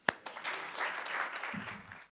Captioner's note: applause